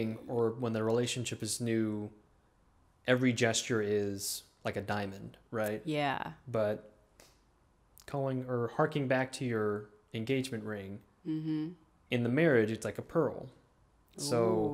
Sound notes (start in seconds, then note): none